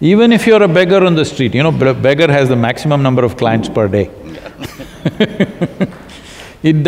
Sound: both laugh

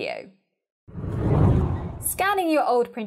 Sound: scene whooshes

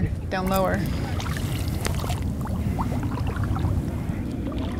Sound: gentle water sound

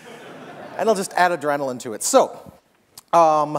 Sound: laughter

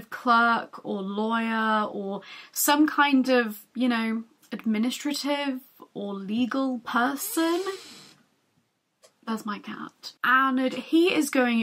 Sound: door creaks

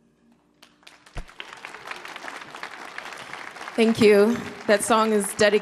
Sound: audience clapping

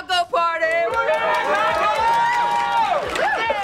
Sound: cheering

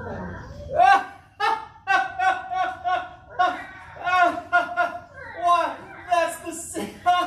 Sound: laughing! Laughing! Laughing! Meows!

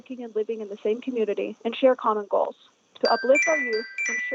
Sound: chime

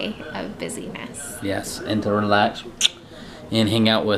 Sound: kisses

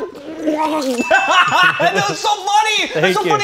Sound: laughing loudly; bell dinging

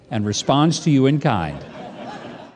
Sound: audience laughing

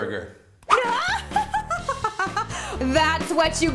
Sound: wicked laugh

